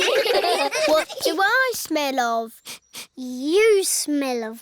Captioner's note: all giggle; sniffs